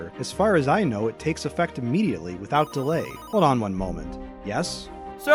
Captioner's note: phone rings